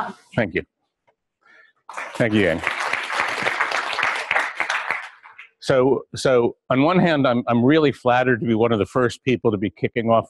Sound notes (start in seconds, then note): 1.9 clapping